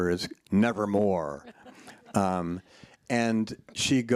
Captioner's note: laughs